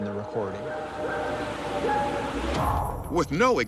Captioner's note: recording howling